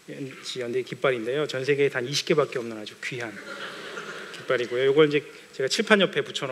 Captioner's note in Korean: 웃음